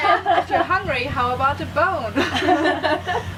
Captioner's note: laughter